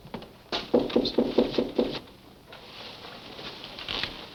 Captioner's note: knocking